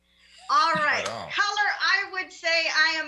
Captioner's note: mumbles